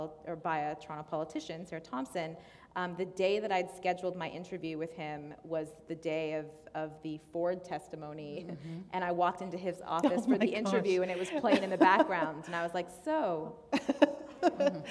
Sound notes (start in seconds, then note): 11.1 laughter; 13.7 laughter